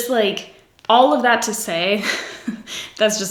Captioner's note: giggles